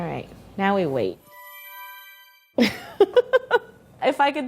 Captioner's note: whimsical music; laughing